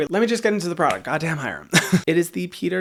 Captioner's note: laughs